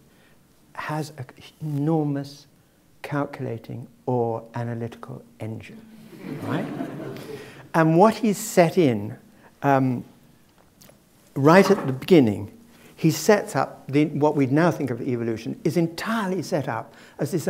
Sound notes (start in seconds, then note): 6.2 laugh